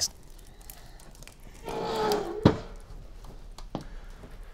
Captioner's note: door creaks